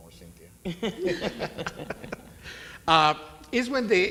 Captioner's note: panelists laugh